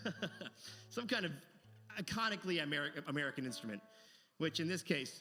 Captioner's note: laughs